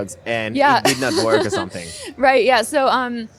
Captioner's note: laughter